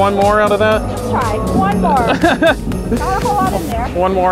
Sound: laughs

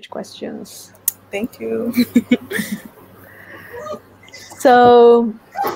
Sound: laughs

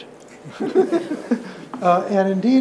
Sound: participants laugh

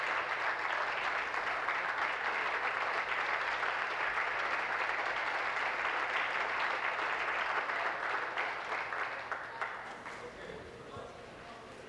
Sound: applause

